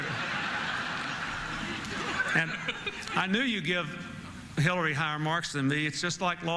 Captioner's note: laughter